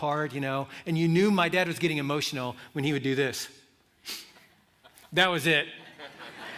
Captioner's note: sniffs; laughter